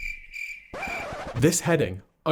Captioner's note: crickets chirping; record scratching